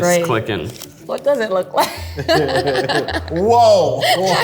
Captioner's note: group laughs